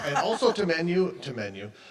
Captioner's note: chuckles